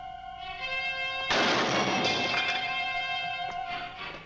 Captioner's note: table slams